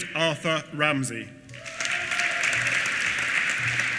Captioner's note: applause